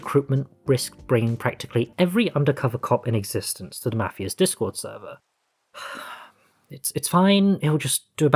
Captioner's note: sigh